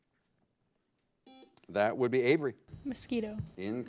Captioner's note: buzzer blares